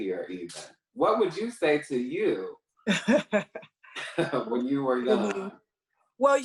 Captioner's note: chuckles